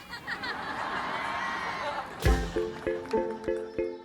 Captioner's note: crowd laughing